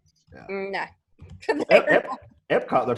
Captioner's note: laughs